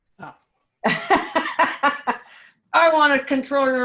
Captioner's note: laughing